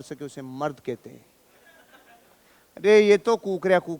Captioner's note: chuckles